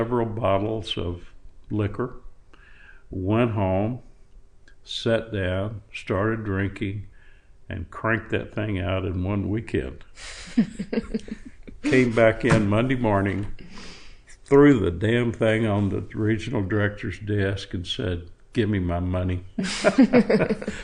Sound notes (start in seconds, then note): 10.5 laughter; 19.6 laughter